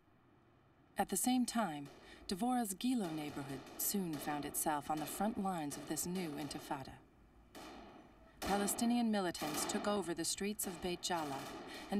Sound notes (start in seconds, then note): 7.5 gunfire